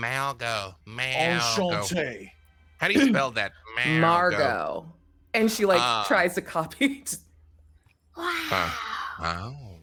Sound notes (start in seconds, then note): 1.2 speaks foreign language; 8.4 laughs